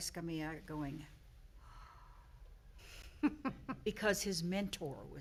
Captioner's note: gentle exhaling